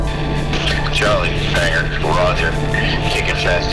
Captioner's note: voiceover